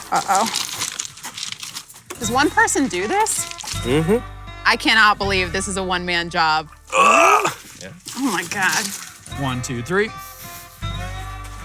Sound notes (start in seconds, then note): 6.9 grunts